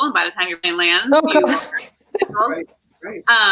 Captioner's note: laughter